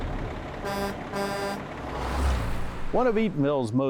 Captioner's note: truck horn